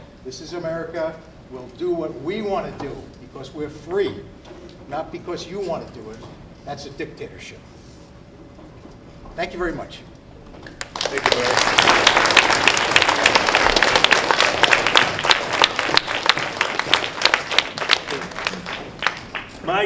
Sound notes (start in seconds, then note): 10.8 applause